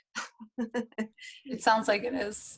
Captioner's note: laughs